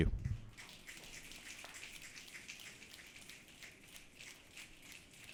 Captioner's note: audience clapping